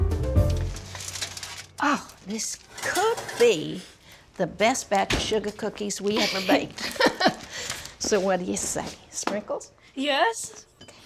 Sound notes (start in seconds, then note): 6.2 chuckles